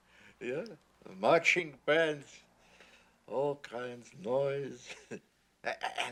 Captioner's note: chuckles